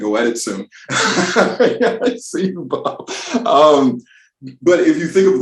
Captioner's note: laughs